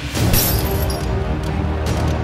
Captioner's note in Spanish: cristales rotos